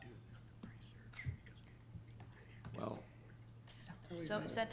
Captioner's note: whispering